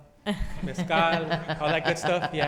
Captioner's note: all laughing